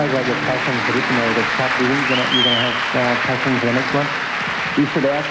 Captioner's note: applause